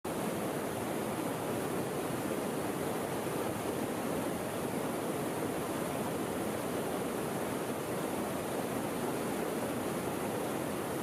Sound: relaxing River Sounds

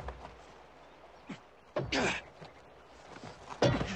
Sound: gasping

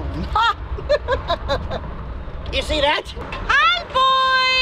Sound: laughing

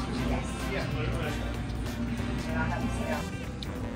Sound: diners talking

